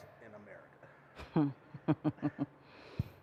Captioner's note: chuckling